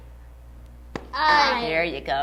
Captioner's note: tap